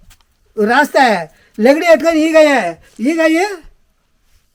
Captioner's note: speaking telugu